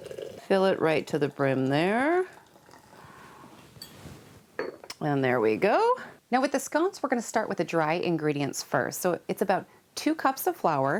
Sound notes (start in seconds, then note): none